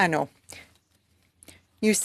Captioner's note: speaking French